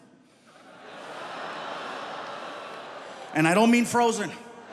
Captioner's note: audience laughing